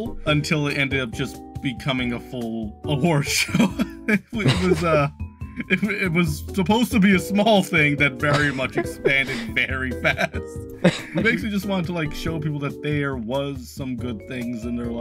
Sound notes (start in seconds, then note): 4.3 chuckling